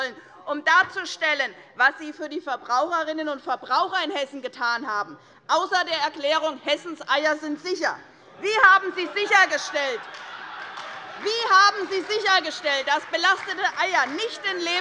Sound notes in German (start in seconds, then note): 9.7 Beifall bei der SPD - Unruhe